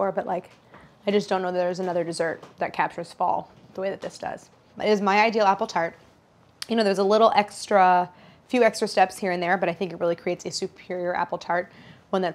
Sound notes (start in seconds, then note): none